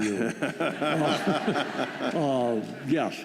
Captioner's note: laughter